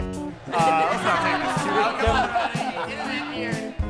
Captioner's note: all laughing